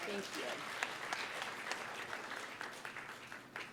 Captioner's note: applause